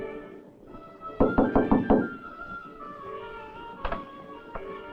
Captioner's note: soft dramatic music; Morris knocking